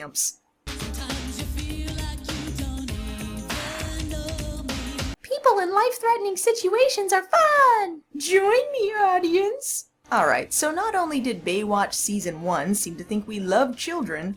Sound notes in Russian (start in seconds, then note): 5.2 детским голосом